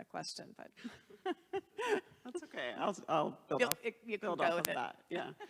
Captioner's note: laughs